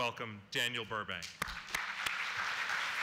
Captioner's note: applause